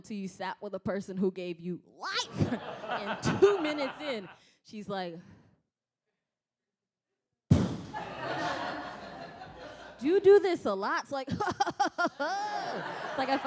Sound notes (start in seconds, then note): 7.8 sighs; 11.3 chuckles